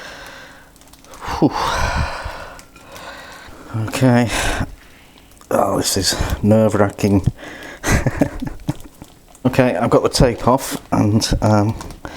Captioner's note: laughs